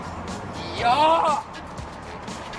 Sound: shouts

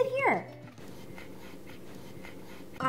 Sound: Doug pants

